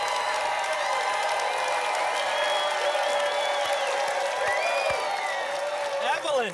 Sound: applause continues

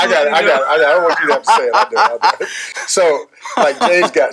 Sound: laughing

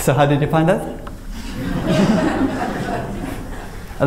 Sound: laughter

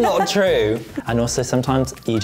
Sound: laughs

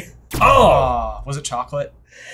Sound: both groan

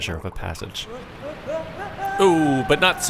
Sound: man shouting

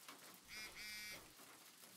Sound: phone buzzes

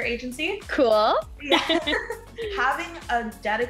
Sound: both laughing

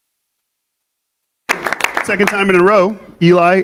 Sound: audience applauding

